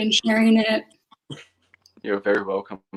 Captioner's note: laughs